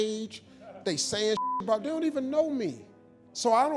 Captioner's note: beep